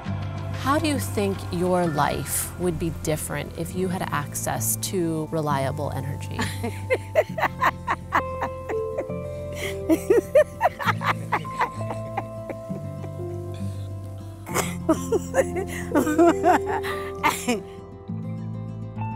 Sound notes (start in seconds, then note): 6.4 laughing